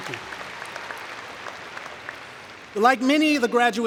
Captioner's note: cheering and Applause